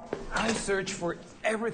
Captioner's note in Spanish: none